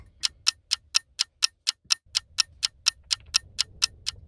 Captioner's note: clock ticking